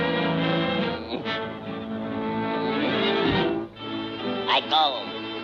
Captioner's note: Popeye grunting